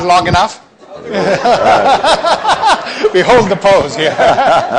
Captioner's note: people laughing